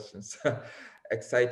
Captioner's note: chuckles